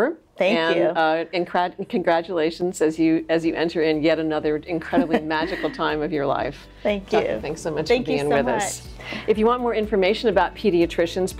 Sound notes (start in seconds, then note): 4.0 laughs